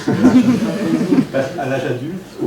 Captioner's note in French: rires